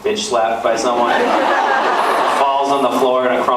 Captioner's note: laughs